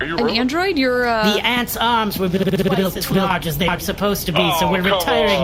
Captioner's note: glitching